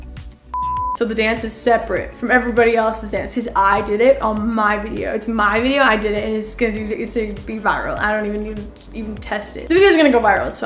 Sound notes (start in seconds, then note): 0.5 screen beeps